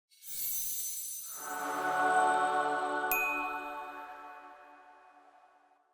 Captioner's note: shimmering sound; angelic chord